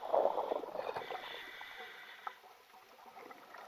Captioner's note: water gurgling